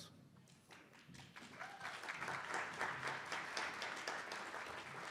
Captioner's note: attendees applauding